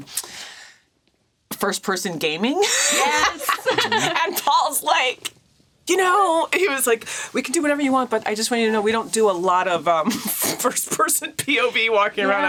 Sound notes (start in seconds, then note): 2.6 laughs